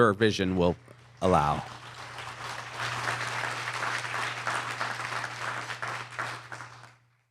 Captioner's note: applause